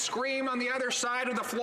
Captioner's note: cheering and Applause